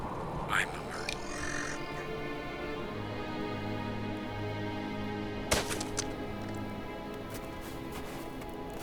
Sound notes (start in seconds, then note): 5.5 weapon thuds